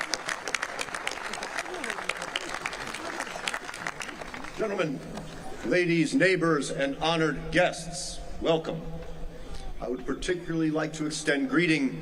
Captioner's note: applause